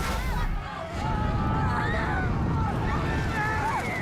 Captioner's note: panicked screams; people screaming